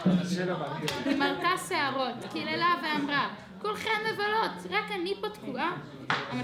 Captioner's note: speaking foreign language